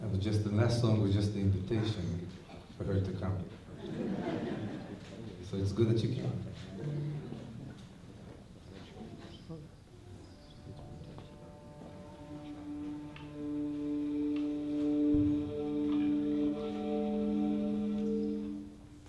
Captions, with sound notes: Just the last song was just the invitation for her to come. [LAUGHTER] So it's good that you came. [INVIGORATING MUSIC]